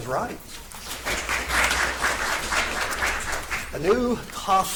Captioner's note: audience applauds